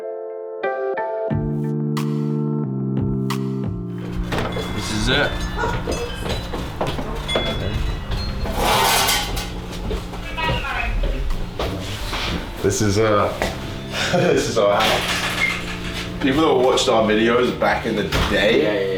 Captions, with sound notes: - This is it. (laughs) This is our house. People that watched our videos back in the day--